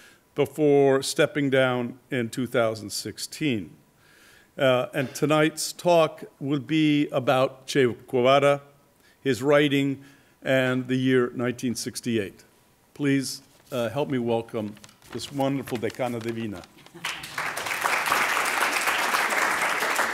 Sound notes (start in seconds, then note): 16.1 spanish; 16.8 applause